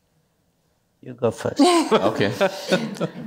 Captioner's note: chuckles